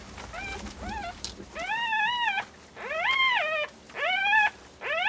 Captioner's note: cub crying